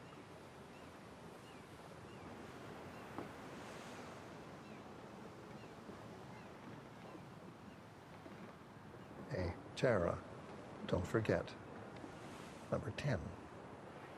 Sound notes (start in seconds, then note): 2.1 birds cawing; 2.1 waves crashing